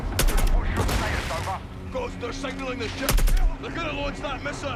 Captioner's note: gunshots